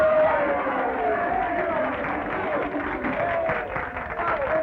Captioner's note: cheers and applause